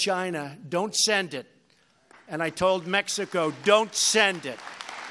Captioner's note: applause